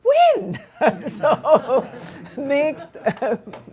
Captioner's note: laughing